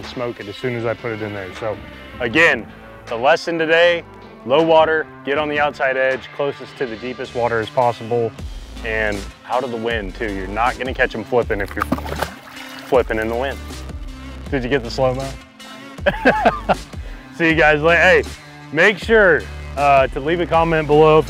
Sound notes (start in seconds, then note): 11.6 water splashing; 16.0 laughing